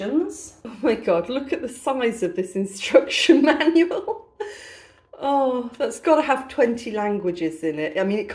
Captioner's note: laughing